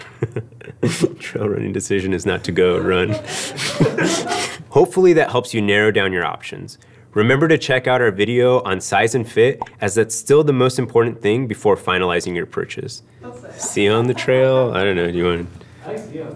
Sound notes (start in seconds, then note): 0.0 chuckles; 2.7 all laugh